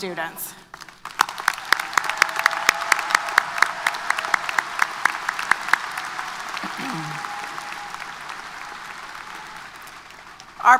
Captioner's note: applause & Cheers